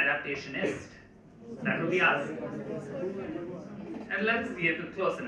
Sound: murmur in the crowd

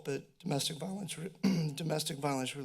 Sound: clears throat

